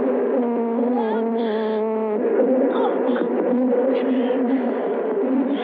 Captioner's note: whimpering